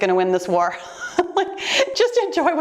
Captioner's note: laughing